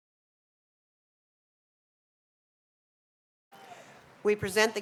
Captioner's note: applause